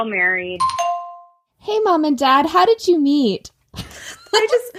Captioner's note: bing bong sound